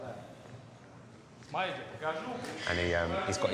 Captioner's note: speaking in foreign language